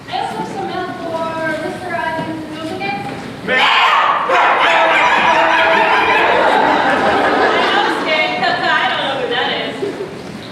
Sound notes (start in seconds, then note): 6.1 aggressive barking noises